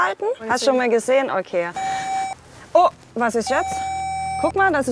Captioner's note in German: Piepsen